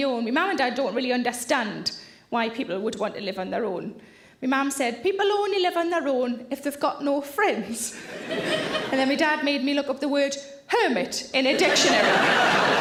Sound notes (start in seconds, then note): 8.0 audience laughter